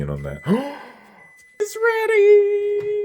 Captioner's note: gasping